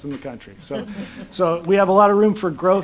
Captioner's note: laughter